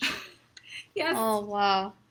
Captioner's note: chuckles